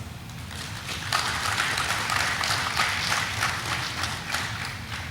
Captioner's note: audience applauding